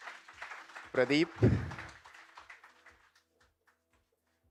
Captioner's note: applause